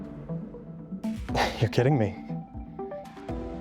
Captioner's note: chuckles